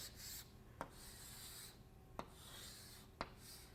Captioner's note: chalk scratching